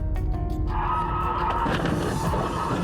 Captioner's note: tires squeal